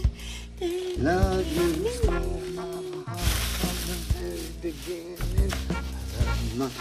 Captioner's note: Holly hums; Holly hums and shuffles bags